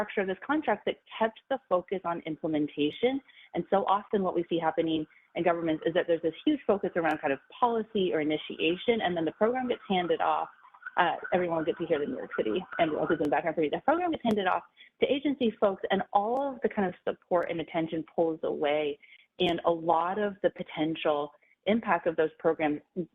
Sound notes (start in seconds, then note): 8.5 siren blaring